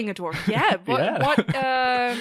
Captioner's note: laughing